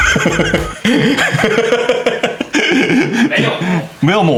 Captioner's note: cannot stop laughing